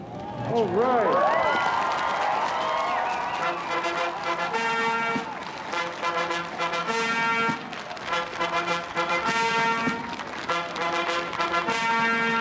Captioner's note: applause